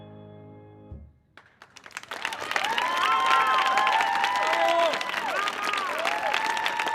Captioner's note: audience applauding